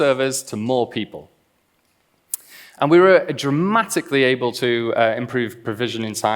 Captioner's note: clicks tongue